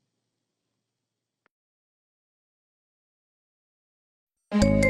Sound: silence; remastered chime plays

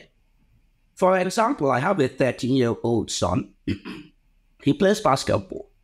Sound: clears throat

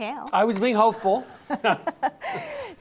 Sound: chuckles

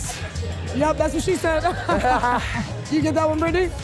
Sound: laughs

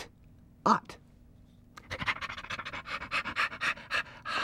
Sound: panting

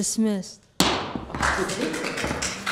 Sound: gavel slamming; people applauding

